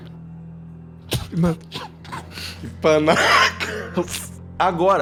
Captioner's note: laughs